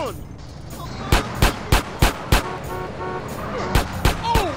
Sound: car horns honking; guns blasting

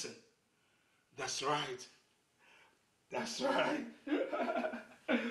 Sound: chuckling

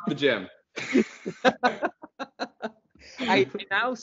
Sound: laughing

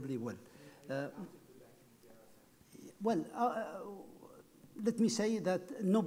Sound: speaking off mic

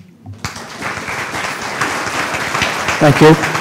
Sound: applause

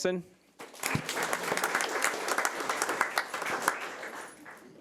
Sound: audience applauding

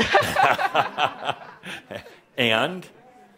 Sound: they both chuckles

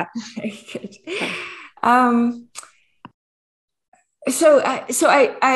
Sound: chuckles

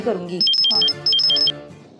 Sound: phone Ringing

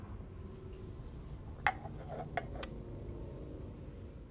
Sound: cup / Lid noises

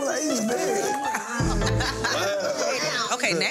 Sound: group laughing

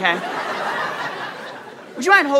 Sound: audience laughter

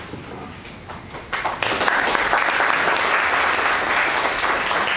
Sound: audience applauds

